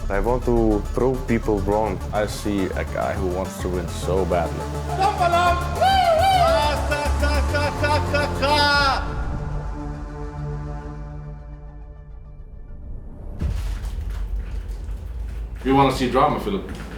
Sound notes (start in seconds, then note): 4.9 people whooping